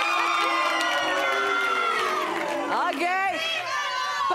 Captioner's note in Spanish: Exclamaciones